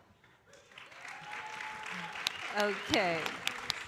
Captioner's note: audience cheering and applauding